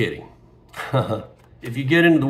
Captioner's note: chuckles